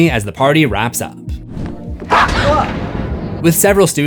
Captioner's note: screams